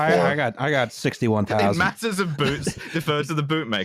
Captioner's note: laughing